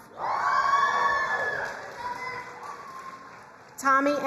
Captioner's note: crowd cheering and applauding